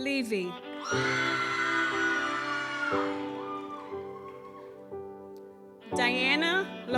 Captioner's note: gentle music continues; audience cheers